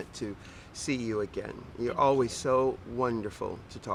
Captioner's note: laughs